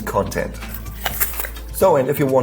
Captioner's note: crunching